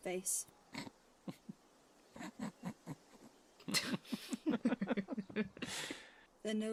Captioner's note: james and Sirius snicker